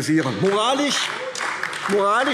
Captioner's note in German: Beifall AfD